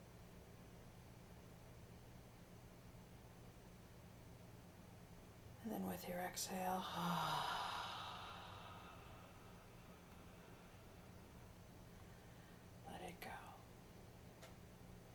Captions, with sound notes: And then with your exhale, (sighing) let it go.